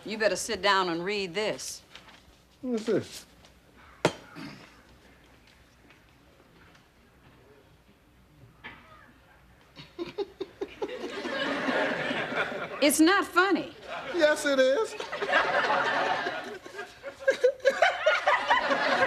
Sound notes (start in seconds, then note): 9.7 laughing